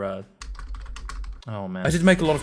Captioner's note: typing